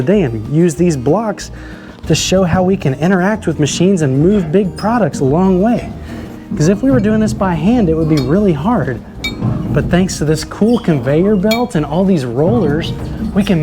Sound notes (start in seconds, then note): 9.1 bell dinging